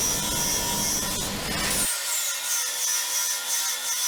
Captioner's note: cutting disc buzzing